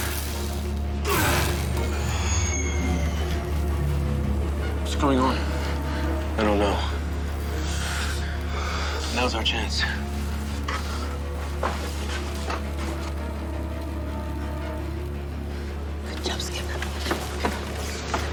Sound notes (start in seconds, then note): 0.0 electricity crackling; 1.0 blows thudding; 2.9 electricity whining; 12.7 dramatic suspenseful music